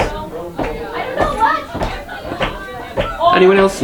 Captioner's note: people chattering